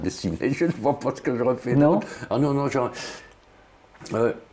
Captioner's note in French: rire